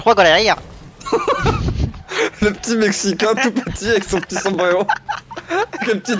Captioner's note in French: rires